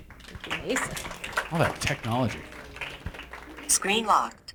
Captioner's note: applause